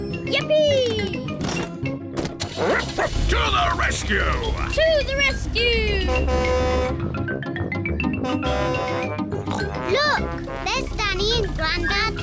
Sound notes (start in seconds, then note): 0.2 barks; 3.9 horn blares; 9.4 snorts